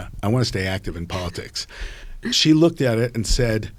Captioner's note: chuckling